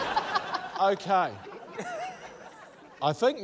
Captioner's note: laughter